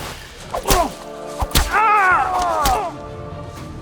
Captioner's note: screams